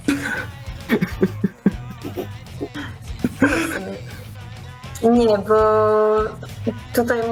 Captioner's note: laughter